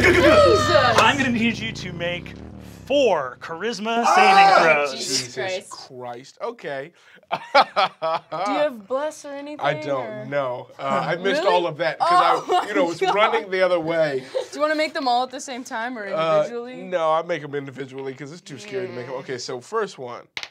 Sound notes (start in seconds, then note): 0.0 cheers; 3.9 group shouts; 7.2 laughs